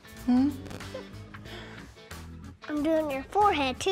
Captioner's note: chuckles